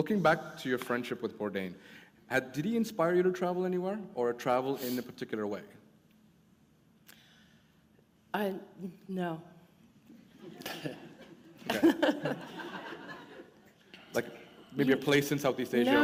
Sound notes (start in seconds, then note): 10.5 chuckle